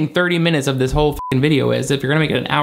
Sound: beep

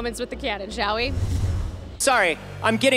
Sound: whoosh

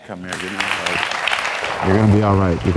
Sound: audience applauds

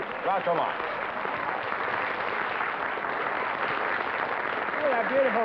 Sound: applause

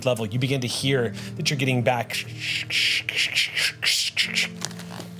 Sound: static noises

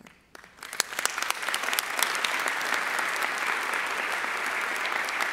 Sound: audience applauding

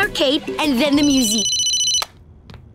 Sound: ringing

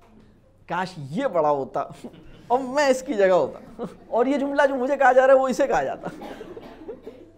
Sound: laughter

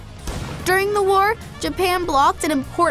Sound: bomb exploding

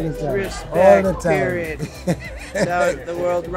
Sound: laughs

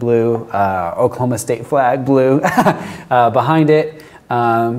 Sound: laughs

